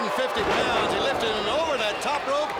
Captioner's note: crowd cheering